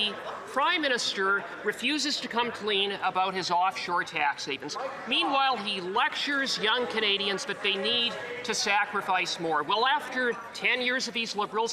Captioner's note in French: voix de l'interprète